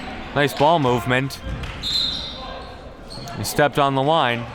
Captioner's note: whistle blowing